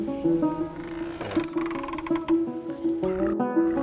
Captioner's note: door creaking